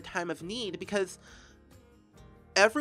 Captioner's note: inhale